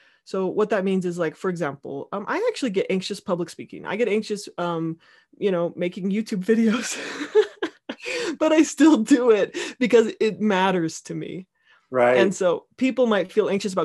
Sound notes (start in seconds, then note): 6.9 laughing